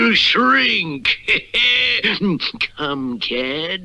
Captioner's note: Simon Bar Sinister Laughs